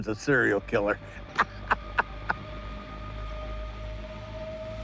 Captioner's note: chuckling